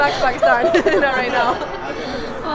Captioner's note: laughin; Kubra laughs